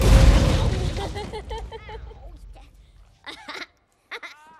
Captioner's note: giggling